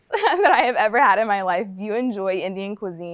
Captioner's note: laughing